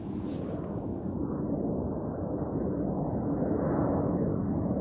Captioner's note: wind whistling